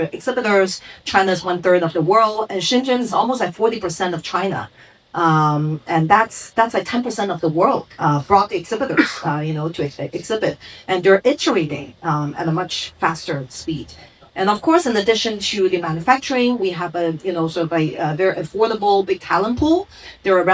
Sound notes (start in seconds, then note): 8.8 coughs